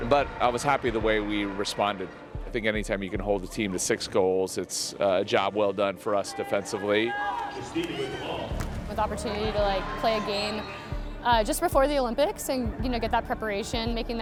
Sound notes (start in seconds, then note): none